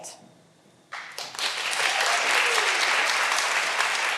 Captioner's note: all applauding